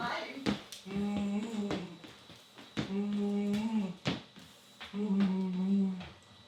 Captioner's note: foot tapping